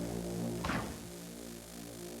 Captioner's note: door closing